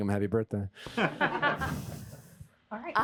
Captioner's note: laughter